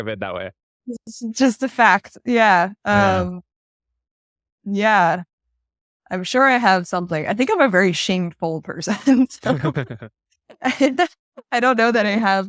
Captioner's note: laughs